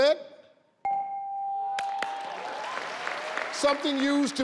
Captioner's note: bell rings; light applause